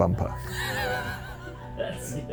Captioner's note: group laughing